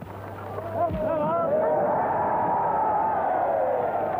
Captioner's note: crowd shouts